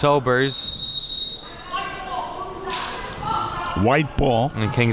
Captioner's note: whistle blowing; athletes shouting